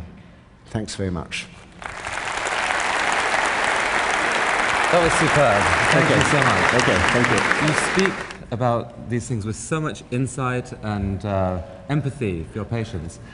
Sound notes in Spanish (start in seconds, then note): 1.8 Aplausos